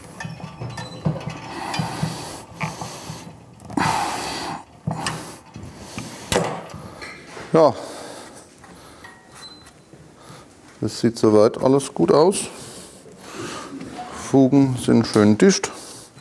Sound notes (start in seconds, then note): 3.6 breathes heavily